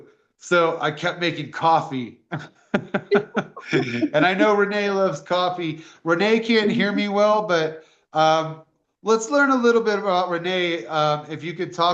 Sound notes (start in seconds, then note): 2.8 laughter